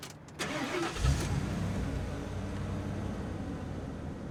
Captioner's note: truck starts